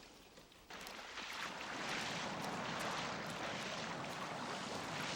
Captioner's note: water splashing